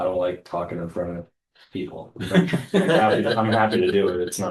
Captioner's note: laughter